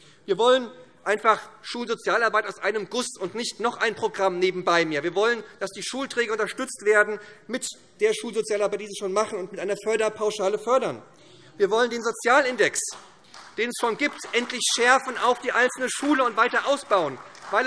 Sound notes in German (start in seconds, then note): 12.3 Beifall SPD